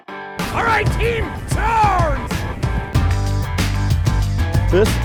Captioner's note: voiceover